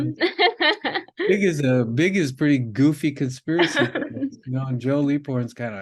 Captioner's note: laughing